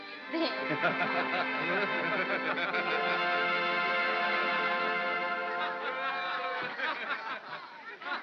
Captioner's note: soft music; soft laughter